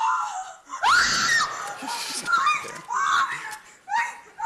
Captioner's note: screams